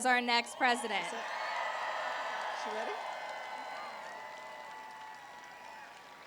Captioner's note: applause